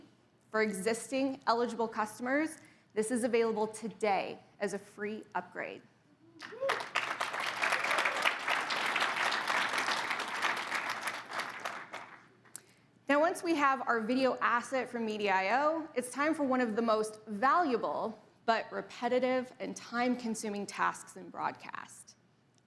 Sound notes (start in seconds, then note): 6.4 audience applauding